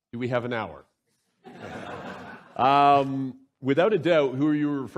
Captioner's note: laughter